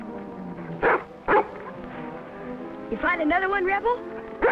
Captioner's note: barking